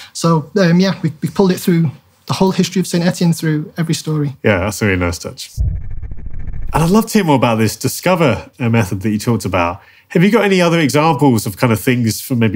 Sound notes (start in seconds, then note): 5.6 transition reverberates